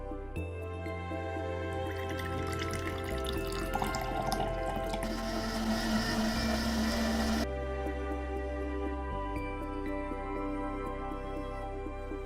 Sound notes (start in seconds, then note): 1.7 juice flows; 5.7 blender whirs